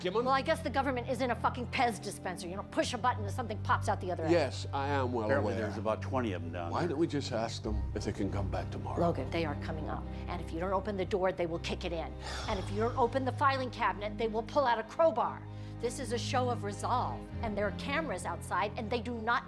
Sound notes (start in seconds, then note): 12.3 logan sighing